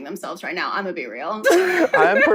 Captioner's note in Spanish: risas